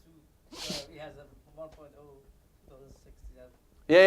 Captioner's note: laugh